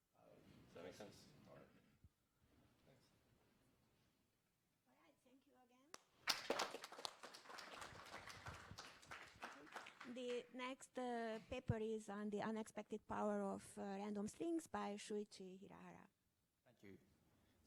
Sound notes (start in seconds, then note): 6.2 applause